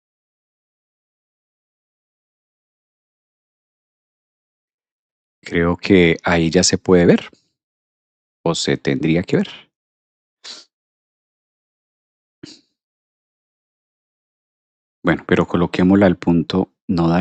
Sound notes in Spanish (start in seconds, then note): 13.5 resoplido